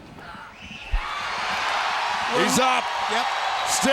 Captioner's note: crowd cheering